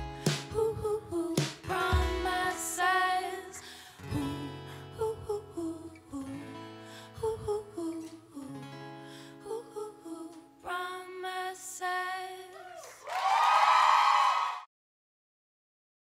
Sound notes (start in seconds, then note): 12.5 cheering, applause